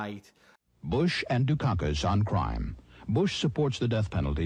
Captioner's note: advertisement voice-over